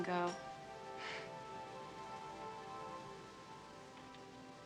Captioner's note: Kate sighs